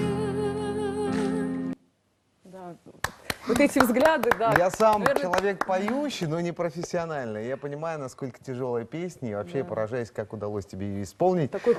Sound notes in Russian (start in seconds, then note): 3.0 аплодисменты